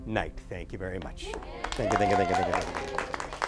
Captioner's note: applause